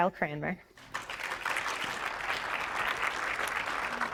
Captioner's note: audience applauds